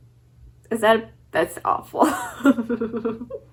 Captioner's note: laughs